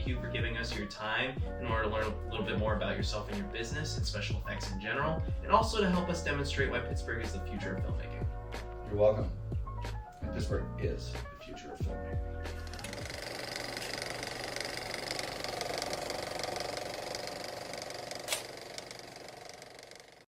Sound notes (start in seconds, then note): 14.8 music fades; 14.8 sound of a film projector